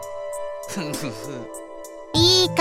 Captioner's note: lamenting